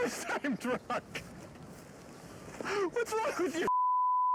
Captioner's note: laughs